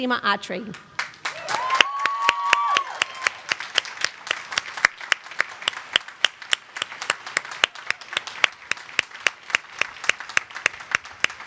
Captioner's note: applause